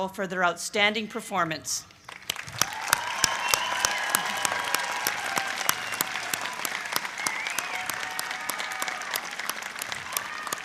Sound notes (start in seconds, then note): 1.9 applause